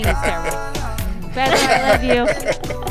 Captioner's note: laughter